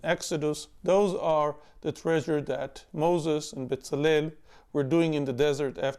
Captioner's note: speaking in Hebrew